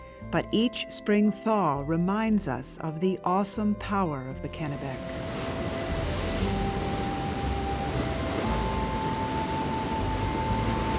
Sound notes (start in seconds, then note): 4.7 water flows